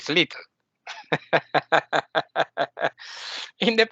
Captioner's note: laughing